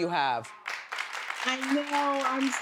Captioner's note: audience claps